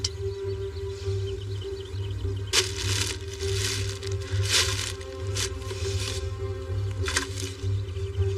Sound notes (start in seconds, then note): 0.1 dramatic c music; 2.5 plastic b bag crinkliling